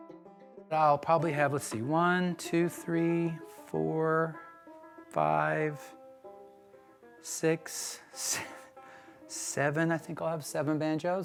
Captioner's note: laughs